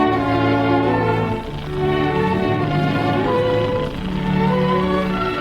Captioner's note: snake rattling